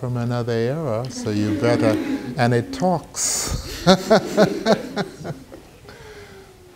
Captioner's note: laughing